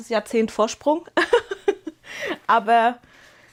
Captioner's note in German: Gelächter